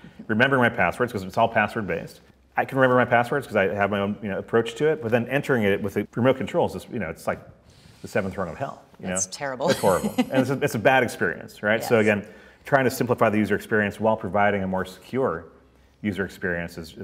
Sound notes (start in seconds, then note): 9.6 chuckles